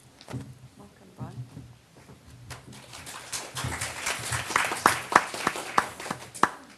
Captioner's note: crowd applause